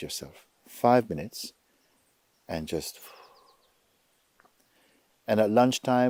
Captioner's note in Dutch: Mooji ademt uit